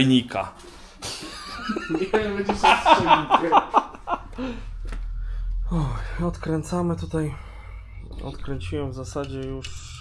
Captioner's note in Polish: śmiech